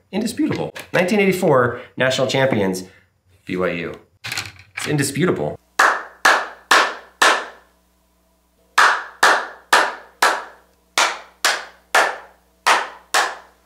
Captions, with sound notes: Indisputable, 1984, national champions, BYU. It's indisputable. (clapping)